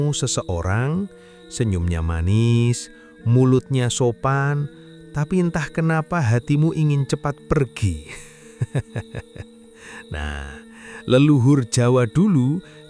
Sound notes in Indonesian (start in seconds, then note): 8.1 tertawa